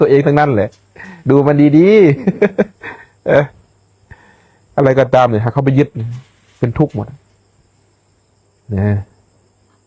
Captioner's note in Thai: เสียงหัวเราะ